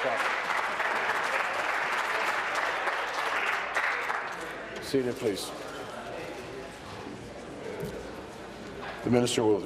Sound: applause

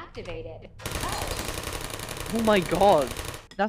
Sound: gunfire

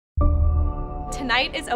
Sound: bell dings

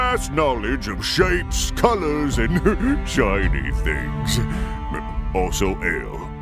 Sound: giggles

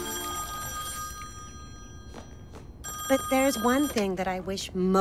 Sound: telephone rings

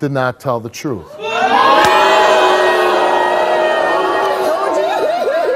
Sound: audience boos

